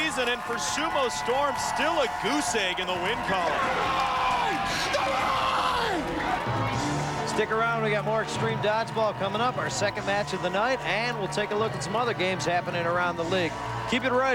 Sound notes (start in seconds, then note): 3.5 yelling